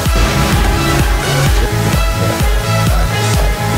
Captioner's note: booming explosion